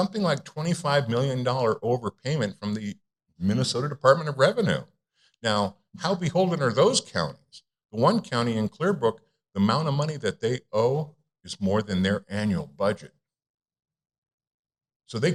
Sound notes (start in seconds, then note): none